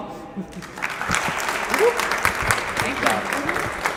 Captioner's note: applause